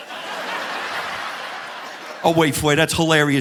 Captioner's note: audience laughing